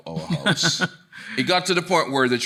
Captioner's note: chuckling